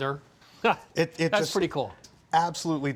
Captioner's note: laughs